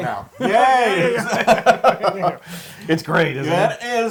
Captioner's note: laugh